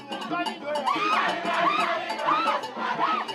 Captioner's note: woman screams